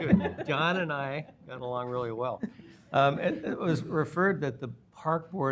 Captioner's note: laughter